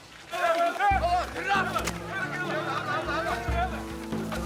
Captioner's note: shouting